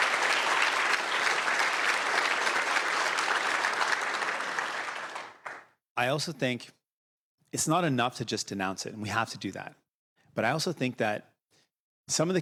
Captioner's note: applause